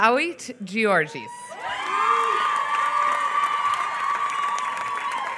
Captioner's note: applause